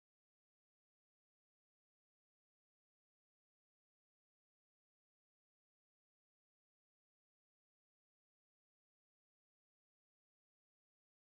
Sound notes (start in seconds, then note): none